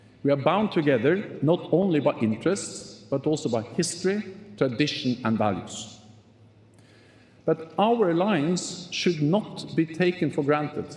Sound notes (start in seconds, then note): none